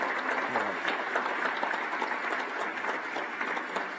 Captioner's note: applause